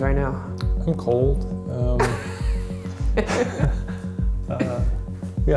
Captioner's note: laughing